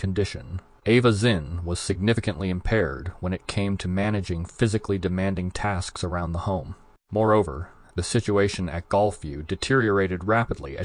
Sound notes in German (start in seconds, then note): none